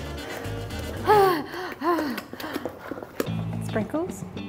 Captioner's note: upbeat music; panting